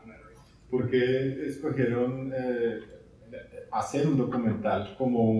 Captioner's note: speaking in Spanish